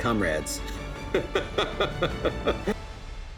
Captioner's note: laughter